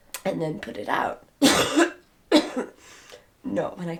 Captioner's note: coughing